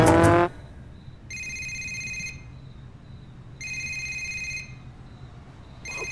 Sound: cellphone ringing

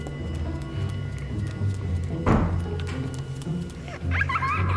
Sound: shuffling footsteps; creepy giggling

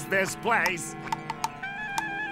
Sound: tapping

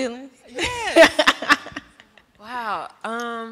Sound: laughter

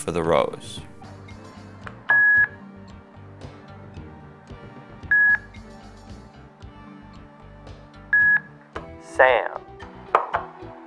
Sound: GoTalk beeps each time row lights up

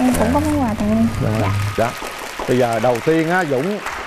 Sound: audience applause

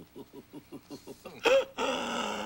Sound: laughing

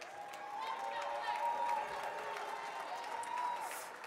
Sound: audience cheering

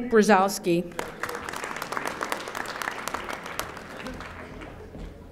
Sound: audience applauding

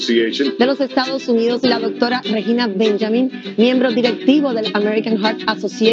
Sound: speaking in foreign language

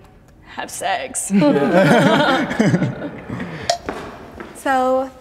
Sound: group laughing

